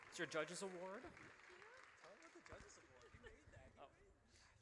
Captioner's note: applause